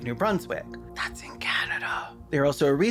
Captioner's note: whisper